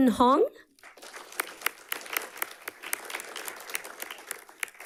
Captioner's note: audience clapping